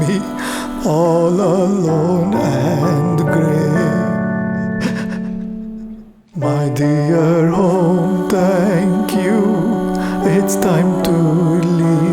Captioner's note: he pauses and sobs softly